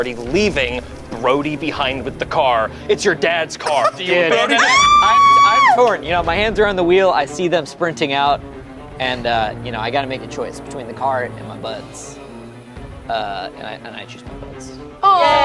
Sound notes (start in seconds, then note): 3.6 yells